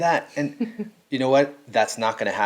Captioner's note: giggling